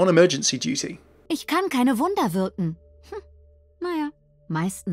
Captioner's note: voiceover; Mercy speaks German